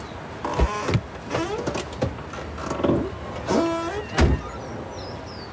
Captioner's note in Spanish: Ruidos al abrir y cerrar las puertas